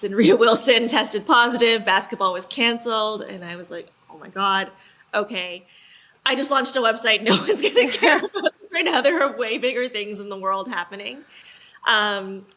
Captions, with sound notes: and Rita Wilson tested positive, basketball was canceled, and I was like, oh my God, okay. I just launched a website, no one's getting care. (laughs) Right now there are way bigger things in the world happening.